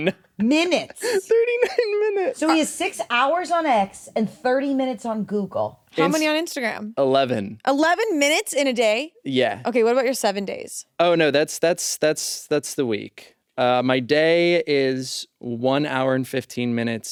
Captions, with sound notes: - Minutes. - 39 minutes. (laughs) - So he has six hours on X and 30 minutes on Google. - How many on Instagram? - 11. - 11 minutes in a day? - Yeah. - Okay. What about your seven days? - Oh, no, that's the week. My day is one hour and 15 minutes on X.